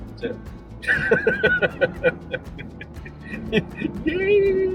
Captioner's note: laughing